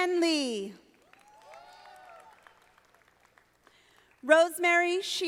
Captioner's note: audience applauding